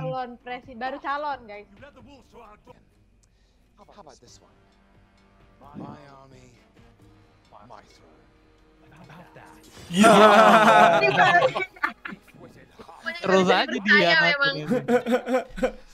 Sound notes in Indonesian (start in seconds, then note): 9.9 Ketawa